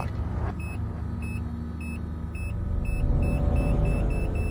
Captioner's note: machine beeps